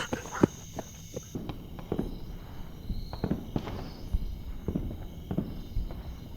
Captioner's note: distant sounds of war